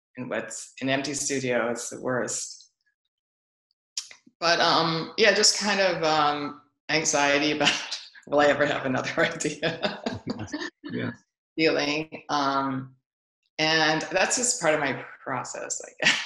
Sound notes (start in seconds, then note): 9.2 laughs